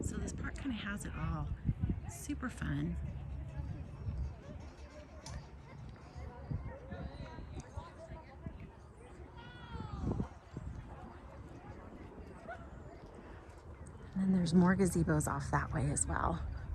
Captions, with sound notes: So this park kind of has it all. Super fun. (wind blowing) (kids chattering) And then there's more gazebos off that way as well.